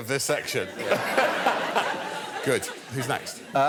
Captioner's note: laughter